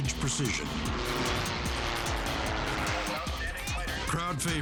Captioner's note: airplane buzzing